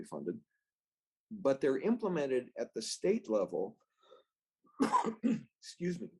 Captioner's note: coughs